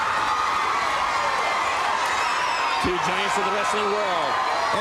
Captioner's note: crowd cheering